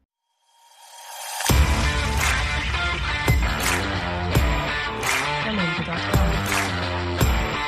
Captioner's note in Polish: Aplauz